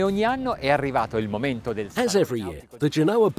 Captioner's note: foreign language